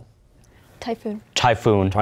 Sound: quietly

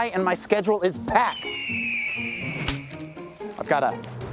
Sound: eagle screeches

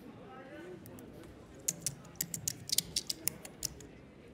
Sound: typing of keyboard

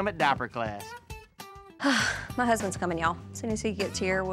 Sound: sighs

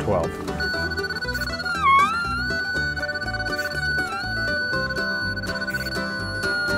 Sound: upbeat music; machine squealing

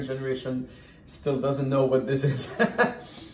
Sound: laughs

